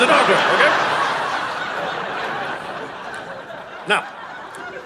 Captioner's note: audience laughing